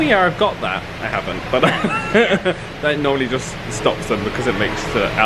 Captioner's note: laughing